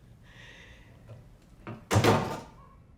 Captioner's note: bangs